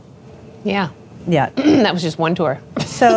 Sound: laughs

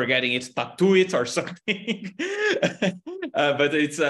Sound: chuckles

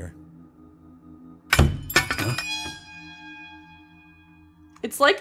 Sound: loud Thud / Clanking

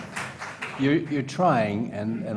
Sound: applause

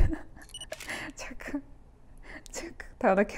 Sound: camera Shutter

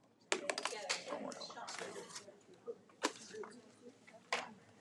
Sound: audience murmuring

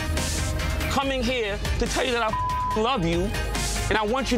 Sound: beep

